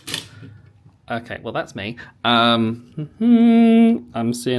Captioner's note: humming